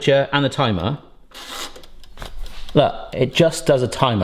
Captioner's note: button clicking